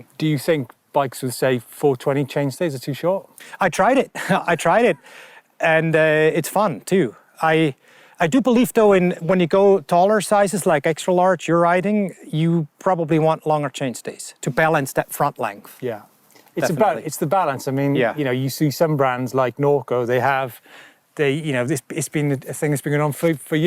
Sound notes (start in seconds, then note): 4.1 chuckles